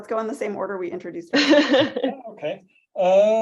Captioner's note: laughs